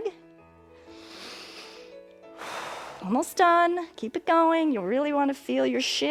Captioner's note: inhales and exhales